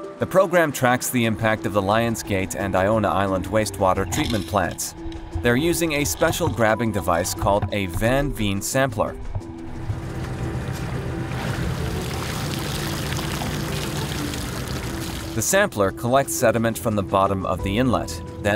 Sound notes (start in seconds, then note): 9.3 motor rumbling; 11.5 water splashing